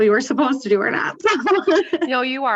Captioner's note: laughs